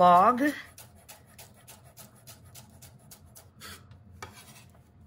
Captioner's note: knife slicing